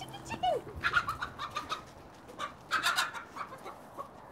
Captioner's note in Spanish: cacareo de gallina